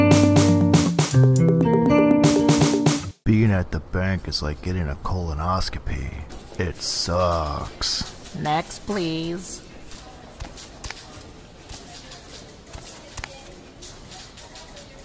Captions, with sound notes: Being at the bank is like getting a colonoscopy It's sucks Next please! [footsteps]